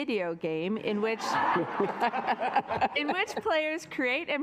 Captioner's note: assembly laughing